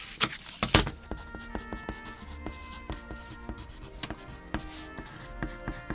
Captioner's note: pencil scratches